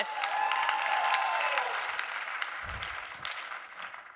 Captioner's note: audience cheering